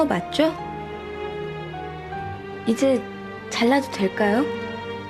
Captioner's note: sentimental piano; speaking Korean